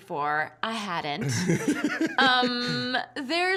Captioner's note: laughing